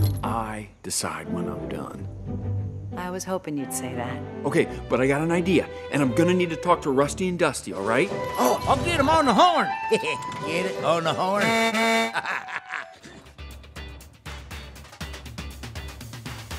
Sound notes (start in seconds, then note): 11.4 horn blasts; 11.7 laughs; 13.0 upbeat music